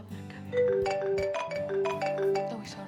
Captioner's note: phone-ringing